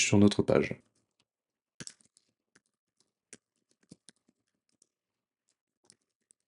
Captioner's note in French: Bruit de clavier